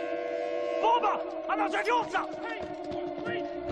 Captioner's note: speaking foreign language